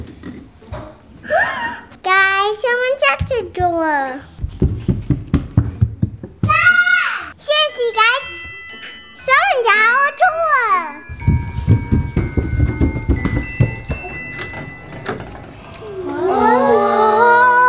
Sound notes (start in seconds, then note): 1.2 Parker gasps; 4.3 footsteps pounding; 6.5 Parker yells; 11.0 footsteps pounding